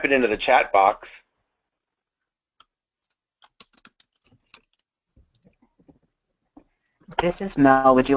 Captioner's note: typing